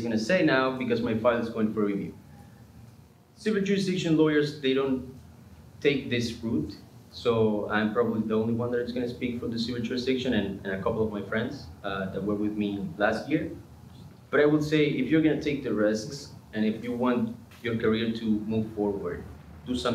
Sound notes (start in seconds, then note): none